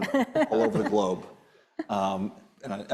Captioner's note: laughing